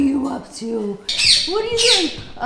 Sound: bird squawking

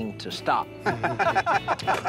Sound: laughter

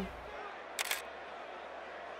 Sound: camera shutter

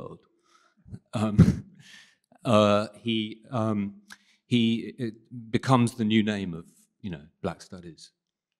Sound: chuckles

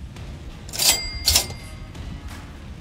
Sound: ca-ching sound three times

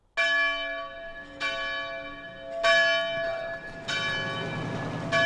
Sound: bell ringing

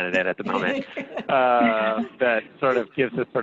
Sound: laughing

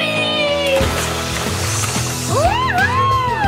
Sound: water splashing

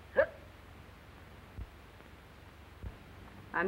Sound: nina hiccups

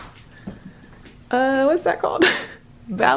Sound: laughs

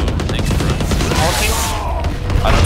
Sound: guns firing

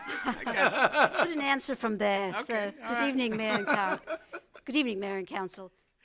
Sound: laughter

